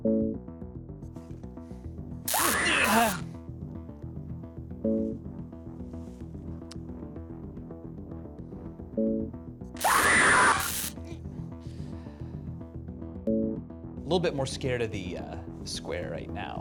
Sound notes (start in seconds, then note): 2.2 electricity crackles, recorded scream; 9.8 electricity crackles; 9.8 recorded scream